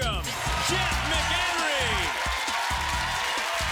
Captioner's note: applause